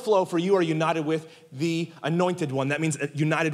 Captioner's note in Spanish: none